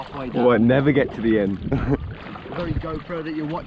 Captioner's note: laughing